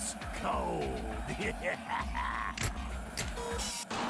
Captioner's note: laughs maliciously